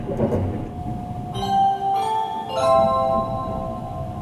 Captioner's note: Sunrise chime